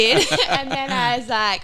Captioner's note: laughing